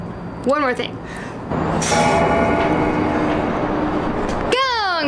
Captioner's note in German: Glockenläuten